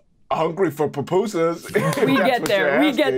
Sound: players laughing

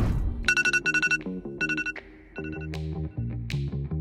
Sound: phone alarm rings; rock music

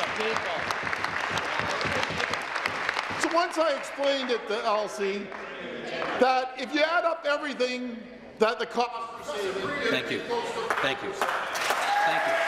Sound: applause

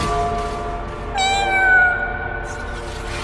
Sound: loud slam echoes; cosmic meow

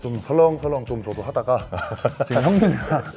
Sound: laughter

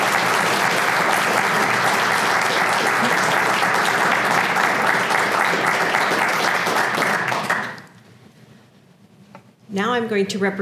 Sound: applause

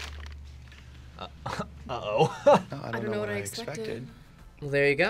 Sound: laughs

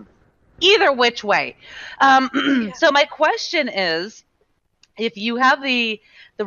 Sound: clearing throat

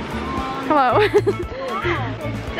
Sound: laughs

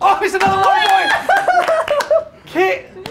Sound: laughter

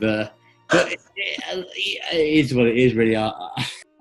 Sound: gasps

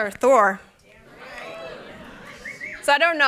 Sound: cheering

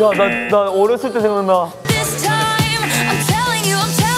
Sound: buzzer rings

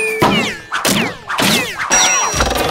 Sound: dings

